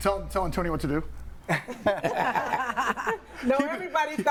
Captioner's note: all laughing